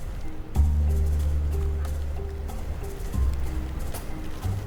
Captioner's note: wind noise